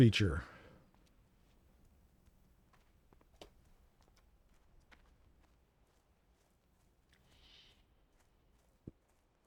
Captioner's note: silence